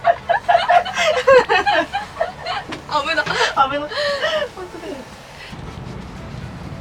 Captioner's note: laughs